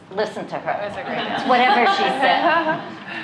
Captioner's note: laughter